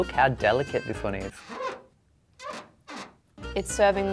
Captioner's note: hinge squeaking